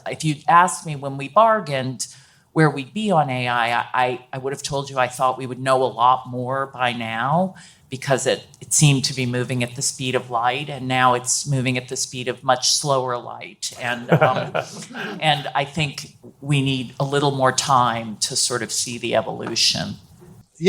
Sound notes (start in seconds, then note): 13.9 panelists laughing